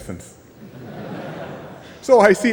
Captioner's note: laughter